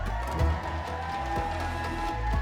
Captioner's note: crowd cheering